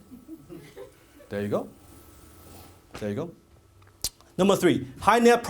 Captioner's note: audience laughs